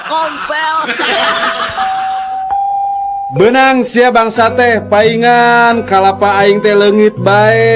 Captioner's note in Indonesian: tertawa